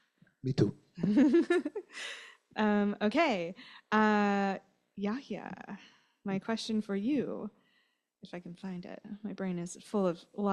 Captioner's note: lauhter